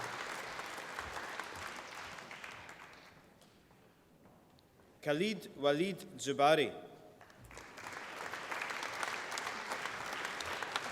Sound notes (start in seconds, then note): 7.2 applause